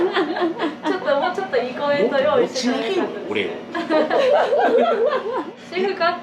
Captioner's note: laughs